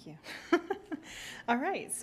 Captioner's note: laughing